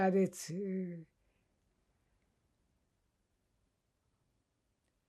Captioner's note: pauses 10 seconds